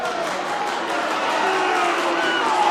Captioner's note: cheering and applauding; booing